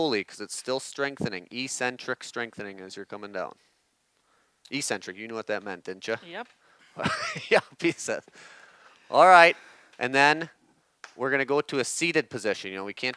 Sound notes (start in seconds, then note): 7.0 laughs